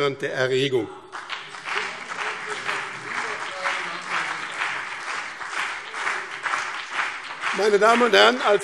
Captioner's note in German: Beifall BÜNDNIS 90/DIE GRÜNEN und CDU - Zuruf SPD: Ei, ei, ei!